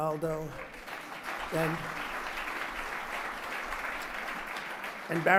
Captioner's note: applause